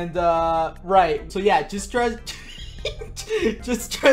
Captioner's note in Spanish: interrumpido entre risas